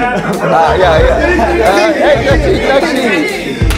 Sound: people laugh

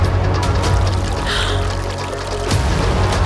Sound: Raya gasps

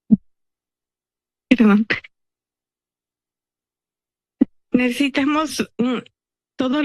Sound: speaking in Spanish

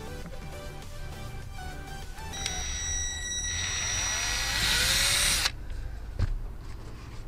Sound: drilling

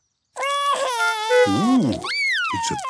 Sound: cries

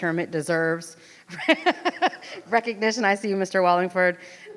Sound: laughs

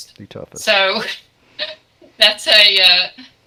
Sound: giggles

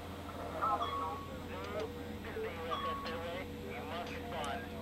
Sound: radio chattering

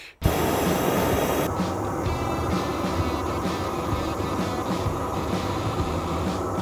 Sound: torch blasting; upbeat music

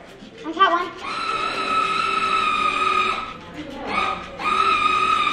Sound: fish toy squealing

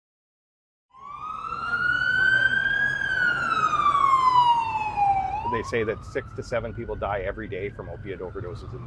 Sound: siren wailing

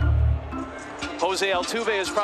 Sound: crowd booing

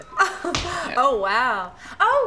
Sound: laughs

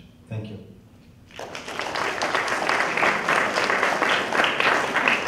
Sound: applause

